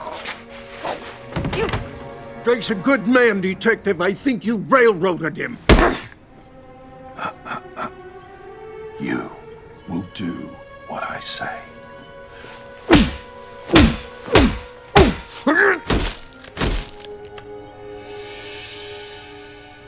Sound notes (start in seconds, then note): 0.1 grunting; 5.7 smacking; 13.6 smacking; 16.1 flash popping